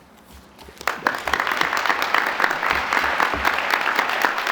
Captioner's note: applause